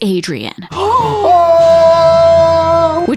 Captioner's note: gasps